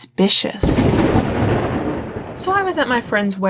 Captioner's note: thunder clap